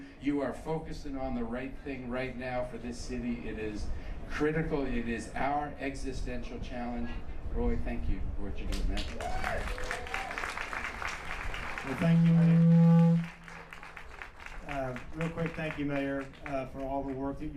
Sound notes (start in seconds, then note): 8.7 applause